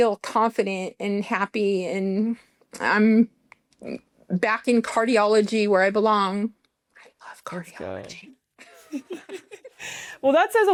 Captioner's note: laughter